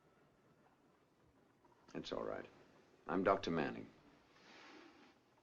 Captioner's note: none